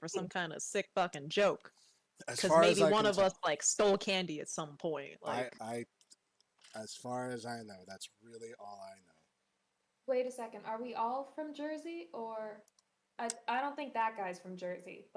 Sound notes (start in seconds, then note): 6.8 stammers